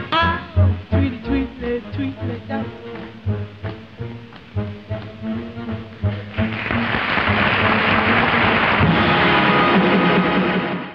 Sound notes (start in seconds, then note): 3.5 upbeat instrumental music; 6.9 audience clapping